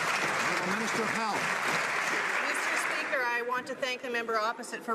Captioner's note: some Applause